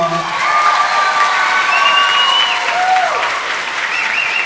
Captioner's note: everyone applauding